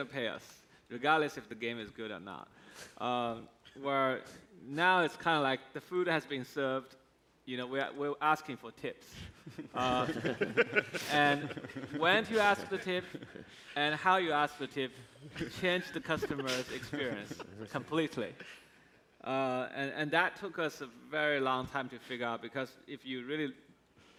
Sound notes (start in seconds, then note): 17.0 laughs